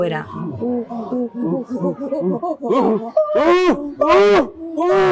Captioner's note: make chimpanzee sounds